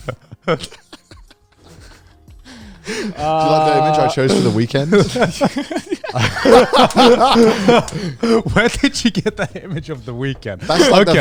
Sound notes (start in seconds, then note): 0.2 laughing; 5.9 all laughing